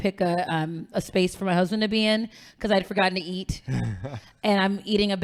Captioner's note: laughing